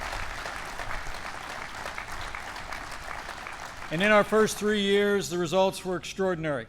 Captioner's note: applause